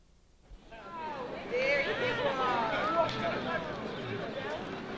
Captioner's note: overlapping chatter